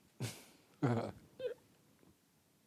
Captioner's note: laughs